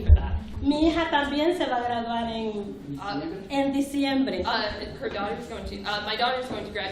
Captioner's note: speaking spanish